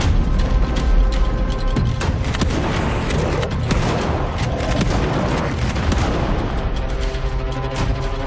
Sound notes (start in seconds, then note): 2.6 growling